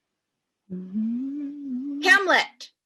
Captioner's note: continues humming